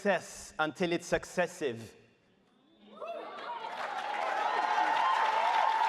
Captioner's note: audience cheers